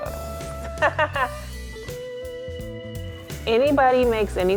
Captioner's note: laughter